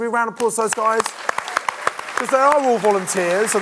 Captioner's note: audience clapping